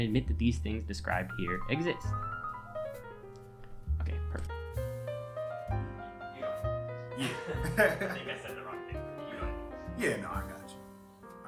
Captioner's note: laughing